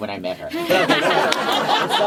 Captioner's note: laughter